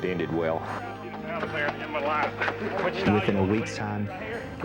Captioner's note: laughs